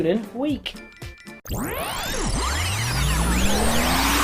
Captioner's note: lasers